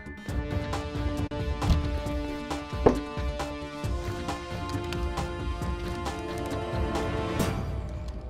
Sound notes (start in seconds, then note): 2.8 Door opens